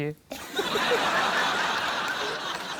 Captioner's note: laughter